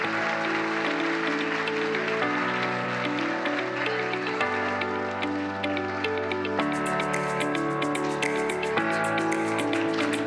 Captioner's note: applause